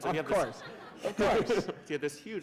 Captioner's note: laughter